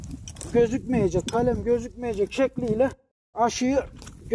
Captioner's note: the sound of the hoe in the soil